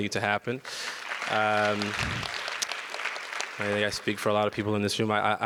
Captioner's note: audience applause